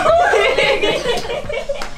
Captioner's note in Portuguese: Gritos